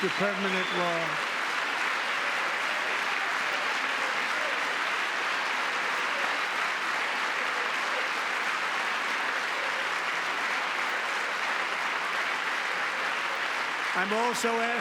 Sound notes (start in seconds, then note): 8.2 applause; 9.9 cheering